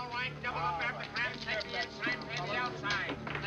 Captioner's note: croupier chattering